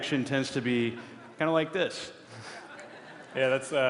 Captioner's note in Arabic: ضحك